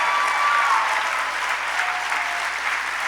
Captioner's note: applause